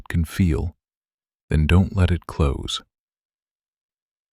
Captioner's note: pause